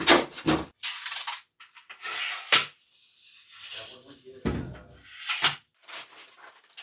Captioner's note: seductive knife sounds